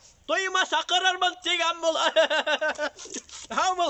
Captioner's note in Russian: смеется